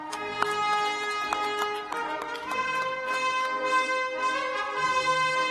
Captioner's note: cheers and applause